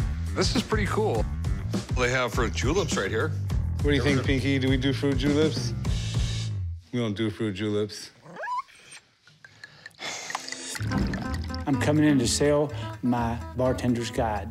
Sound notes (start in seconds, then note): 8.2 dog whines; 9.5 sighs